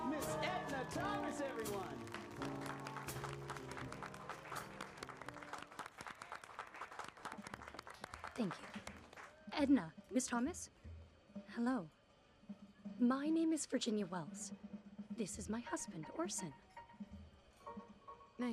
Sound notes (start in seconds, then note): 2.3 applause